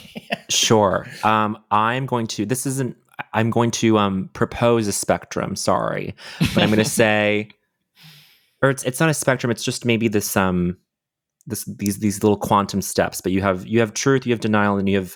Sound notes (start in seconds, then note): 6.1 taran chuckles